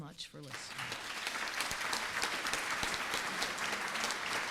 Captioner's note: audience applauding